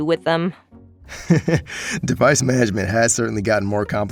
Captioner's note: laughs